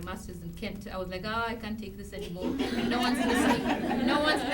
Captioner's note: chuckles